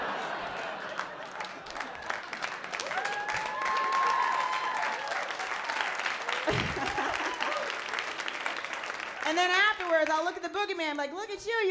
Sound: applause

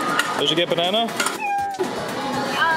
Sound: meow

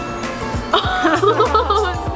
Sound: laughing

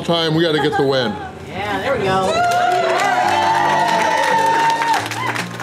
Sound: crowd clapping and cheering

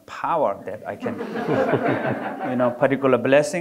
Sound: audience laughing

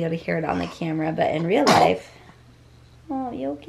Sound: sneezing

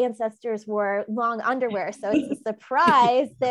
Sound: laughing

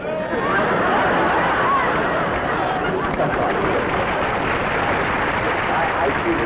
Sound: laughter, then applause

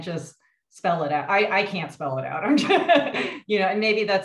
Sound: laughs

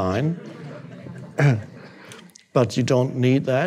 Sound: audience laughing

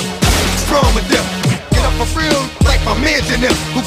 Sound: punching

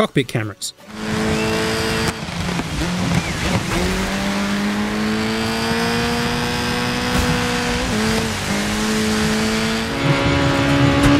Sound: bideo game sounds

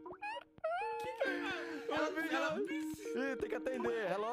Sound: skype calling

